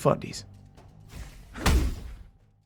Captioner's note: swoosh, Thud